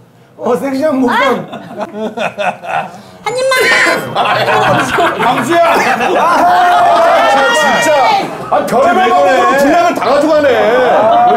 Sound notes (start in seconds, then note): 3.6 coughing